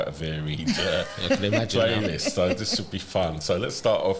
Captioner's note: laughter